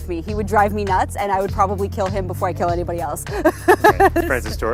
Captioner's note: laughs